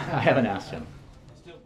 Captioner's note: laughter